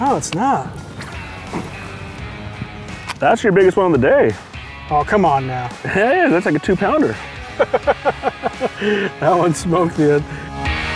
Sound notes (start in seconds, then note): 7.5 laughter; 10.7 heavy rock